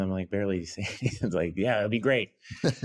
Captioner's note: laughs